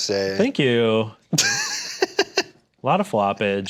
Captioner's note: laughs